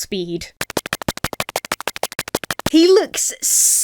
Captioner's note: feet pattering